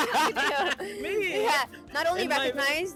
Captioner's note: laughing